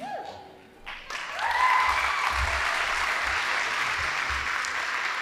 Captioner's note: audience applauding